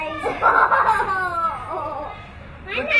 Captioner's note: laughter